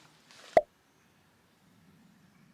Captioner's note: pop